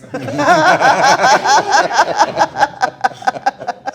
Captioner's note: all laughing